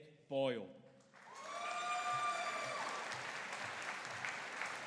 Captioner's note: audience cheering